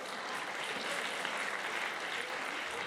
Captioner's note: applause